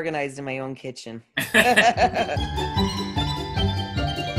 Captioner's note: laugh; cheerful upbeat music